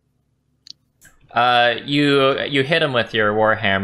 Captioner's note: none